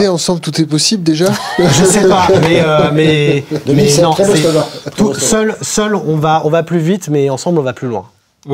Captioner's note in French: rires